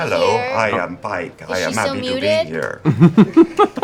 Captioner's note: robot voice